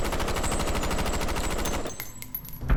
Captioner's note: shell casings clinking; intense music